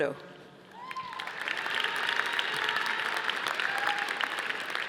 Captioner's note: audience applauding